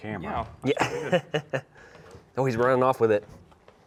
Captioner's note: laughing